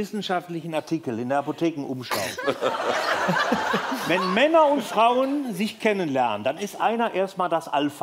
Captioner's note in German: Lachen